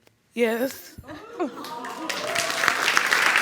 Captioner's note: crying; audience applauding